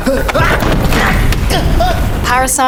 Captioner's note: man grunting